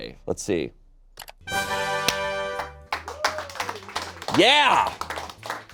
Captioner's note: triumphant music; audience applauding